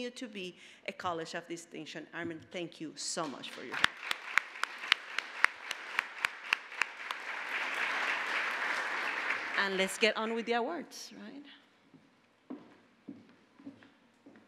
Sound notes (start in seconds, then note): 3.3 applause